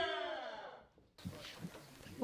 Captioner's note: cheers